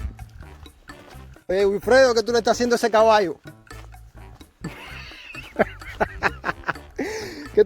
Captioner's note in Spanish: risas